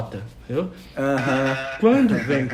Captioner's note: laughs